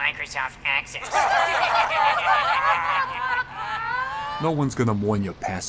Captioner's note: condescending Laughter